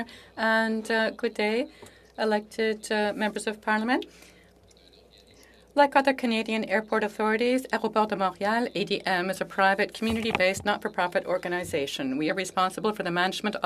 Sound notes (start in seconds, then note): 3.9 speaking French